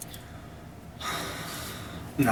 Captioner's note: sighs